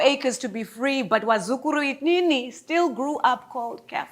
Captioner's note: speaks in a foreign language